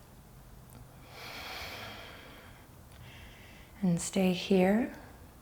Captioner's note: deep breaths